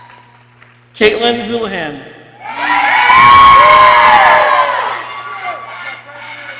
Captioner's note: people cheering